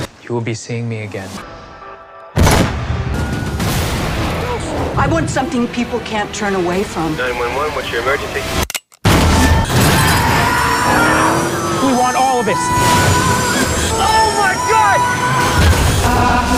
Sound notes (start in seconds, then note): 2.4 gunshot; 9.0 gunshot; 9.5 screaming